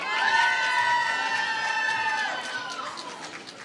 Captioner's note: applause